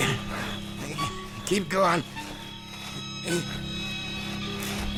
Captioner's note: dramatic music playing; both grunting; footsteps thudding